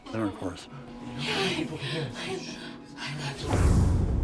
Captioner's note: heavy breathing